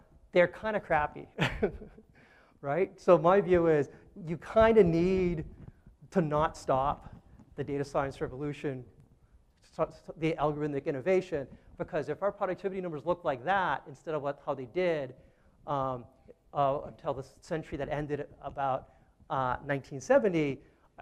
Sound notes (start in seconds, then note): 1.3 chuckles